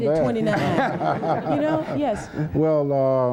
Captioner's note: laughs